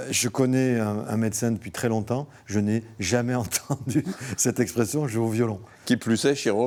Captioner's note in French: rires